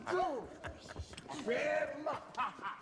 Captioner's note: laughs